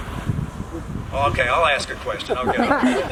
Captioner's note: laughter